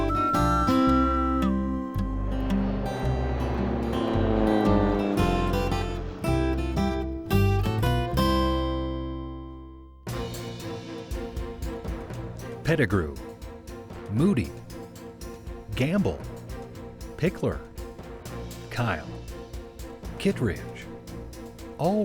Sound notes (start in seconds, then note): 3.0 airplane engine; 10.4 upbeat music